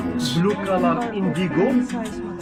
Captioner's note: background talking